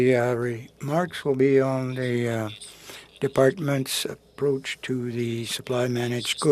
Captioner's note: speaking French